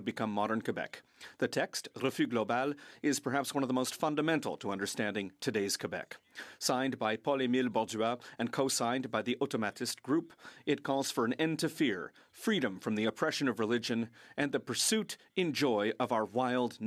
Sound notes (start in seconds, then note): 5.6 speaking French; 11.2 speaking French